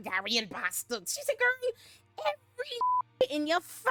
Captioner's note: beep